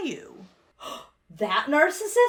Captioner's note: gasps